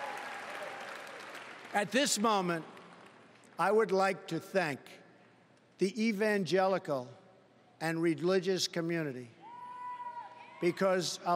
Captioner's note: applause